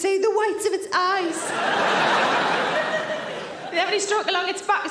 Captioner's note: audience laughing